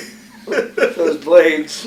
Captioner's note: laughter